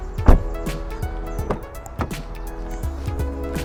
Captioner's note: car doors close